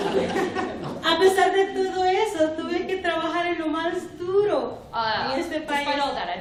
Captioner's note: speaking spanish